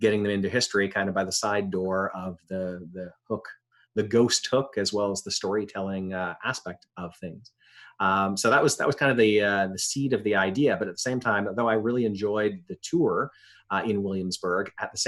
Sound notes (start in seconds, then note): none